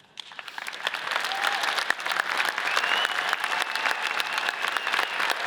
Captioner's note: audience cheers and applauds